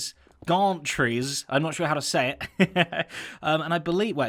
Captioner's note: chuckles